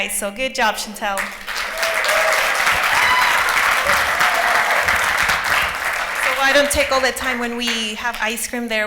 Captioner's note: applause